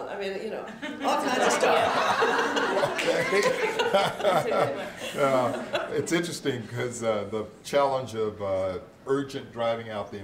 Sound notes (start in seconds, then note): 0.7 laughter; 3.2 chuckles